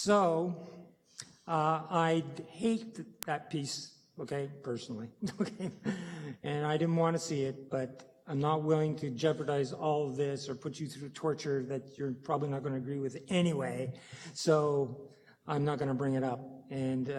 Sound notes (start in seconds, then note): 5.2 chuckling